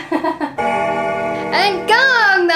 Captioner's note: chuckling; bell donging